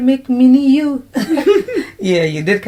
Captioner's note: laughter